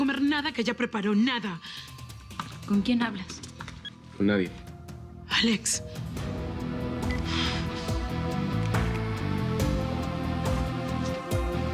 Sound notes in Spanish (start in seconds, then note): none